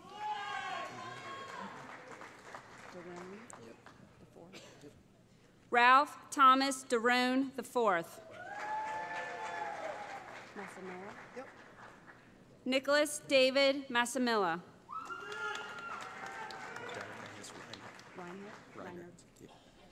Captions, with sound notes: [ Cheering ] Ralph Thomas Derone IV [ Cheering ] Nicholas David Massimilla [ Cheering ]